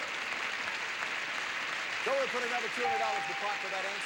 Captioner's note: audience applauding